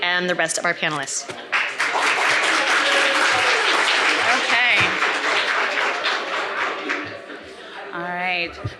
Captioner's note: applause